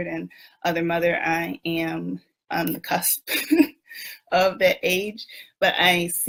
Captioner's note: laughs